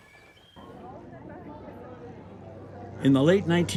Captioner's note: crowd murmuring